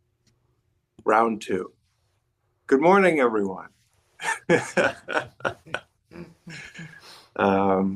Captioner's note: laughs